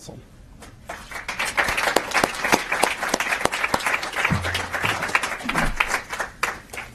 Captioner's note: applause